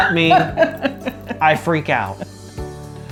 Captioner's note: laughs